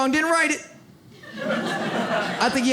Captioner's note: audience laughs